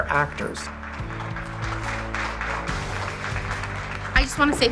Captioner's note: children audience applause